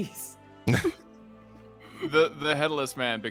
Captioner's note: both chuckling